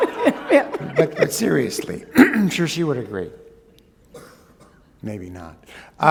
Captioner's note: laughter